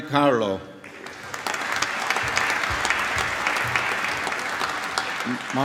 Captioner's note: applause